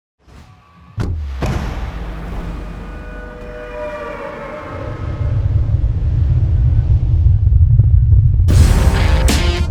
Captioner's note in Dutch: game geluid